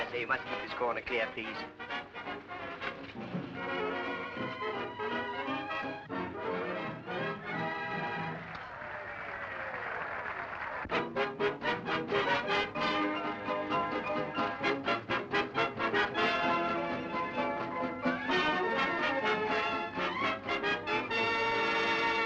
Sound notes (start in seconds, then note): 4.1 upbeat music; 8.2 audience applauding and cheering; 11.3 upbeat music